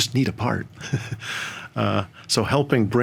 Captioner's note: chuckles